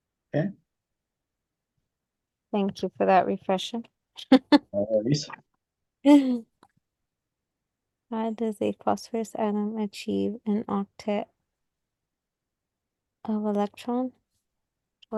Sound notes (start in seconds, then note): 4.8 laughs